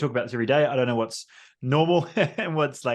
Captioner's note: laughs